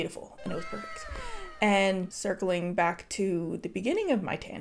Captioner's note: meme sound